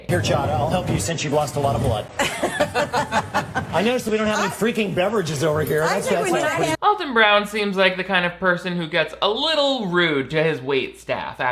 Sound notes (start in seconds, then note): 2.1 all laughing